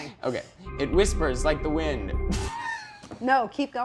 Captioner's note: laughs